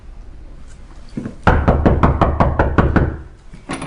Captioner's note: knocking